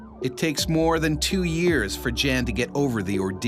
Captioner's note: voiceover